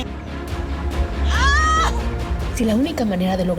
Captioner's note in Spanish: Gritos